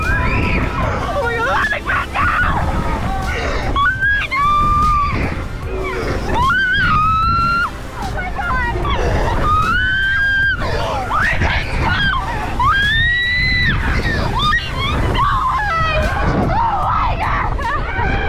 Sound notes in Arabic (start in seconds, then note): 0.0 صراخ الدراجين; 5.8 صراخ; 8.7 صراخ البنات